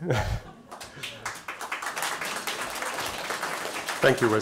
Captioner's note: applause